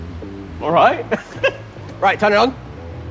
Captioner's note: giggles